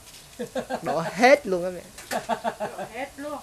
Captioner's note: laugh